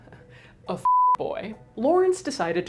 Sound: chuckles; beep

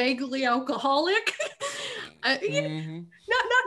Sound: laughing

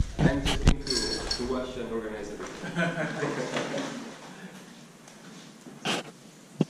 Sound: laughing

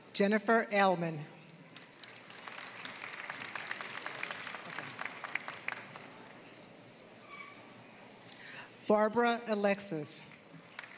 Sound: applause; applause

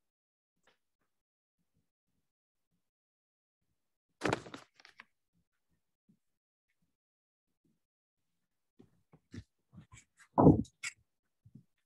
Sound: silence

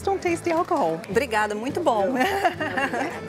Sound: in Portuguese

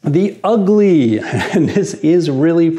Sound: chuckles

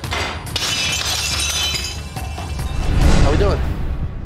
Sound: glass shattering

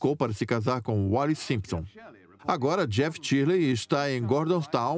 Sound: voiceover

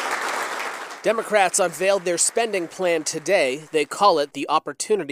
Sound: applause

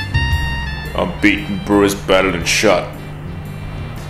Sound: voiceover

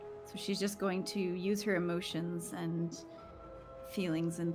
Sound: none

